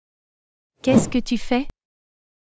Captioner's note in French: FX - Whoosh - 03